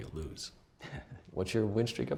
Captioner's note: chuckles